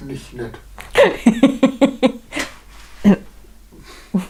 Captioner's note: laughs